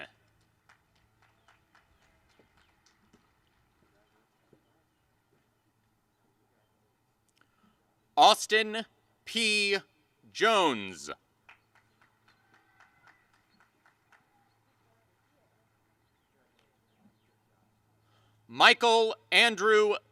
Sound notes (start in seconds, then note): 0.1 applause; 16.5 applause and cheering